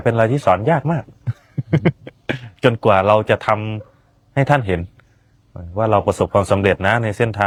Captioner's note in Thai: เสียงหัวเราะ